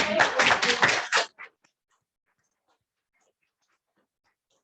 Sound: audience applauds

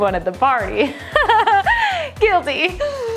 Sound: laugh cries

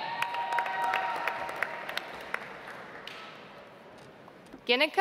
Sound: audience applauds

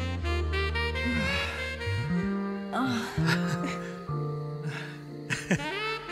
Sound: panting, then giggling; more giggling

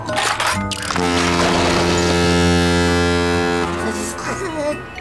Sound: horn blowing

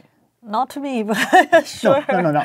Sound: laugh

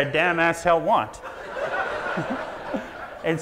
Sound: audience laughs; laughs

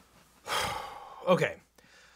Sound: loudly exhaling

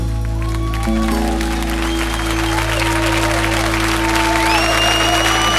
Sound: audience cheering and applauding

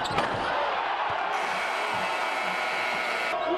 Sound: buzzer sounds

